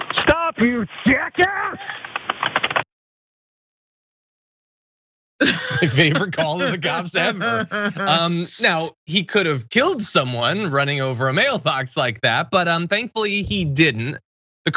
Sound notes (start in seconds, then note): 5.4 laugh